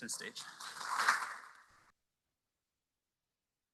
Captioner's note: applause